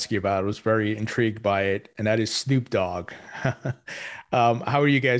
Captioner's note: laughs